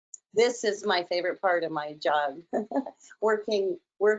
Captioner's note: laughs